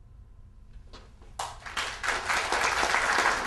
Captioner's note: audience applause